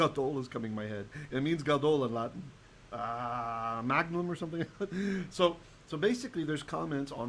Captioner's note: Hebrew